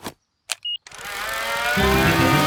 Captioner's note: beeps; plane humming